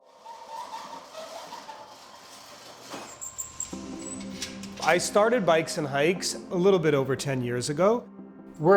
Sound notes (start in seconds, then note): 0.0 door sliding; 3.7 bright upbeat music